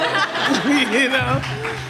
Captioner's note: everyone laughs